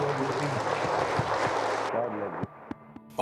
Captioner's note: congregation applauding